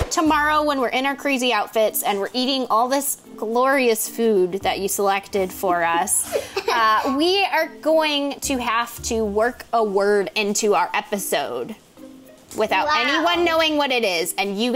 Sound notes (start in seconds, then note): 6.1 laughs